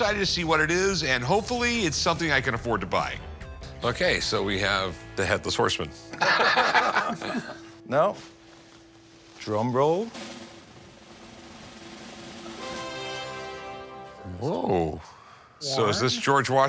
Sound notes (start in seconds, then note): 6.1 laughter